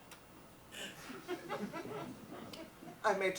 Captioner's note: audience laughs